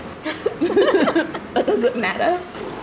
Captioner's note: both laughs happily